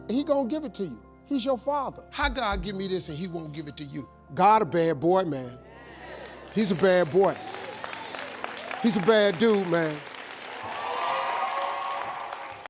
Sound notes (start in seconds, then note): 7.6 audience applauding; 10.3 audience cheering